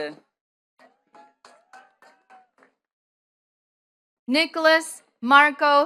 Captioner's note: attendees clapping